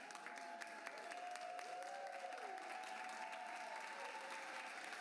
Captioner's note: cheers and applause